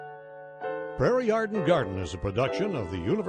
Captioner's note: gentle music; voiceover